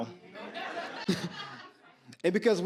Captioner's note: audience laughs